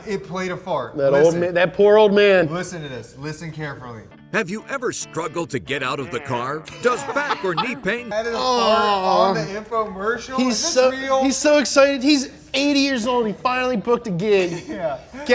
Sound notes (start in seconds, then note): 6.5 fart noise; 6.6 both laugh